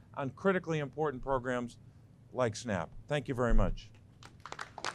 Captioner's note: applause